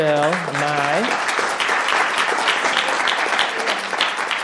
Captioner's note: clapping